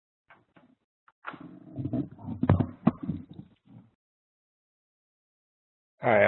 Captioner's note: pause